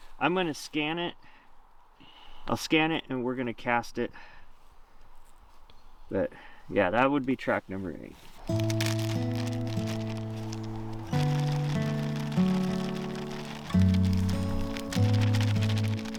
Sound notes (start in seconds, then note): 8.1 bag crackling; 8.4 easygoing music